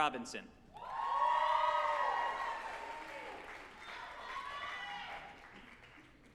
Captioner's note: group applauding and cheering